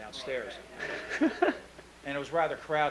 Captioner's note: laughing